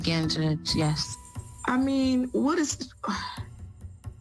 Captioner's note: sighs